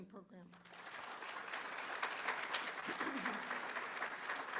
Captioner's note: applause